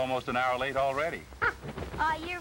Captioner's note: caw